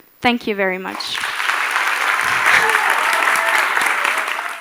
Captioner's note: applause